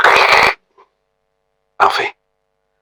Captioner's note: static noises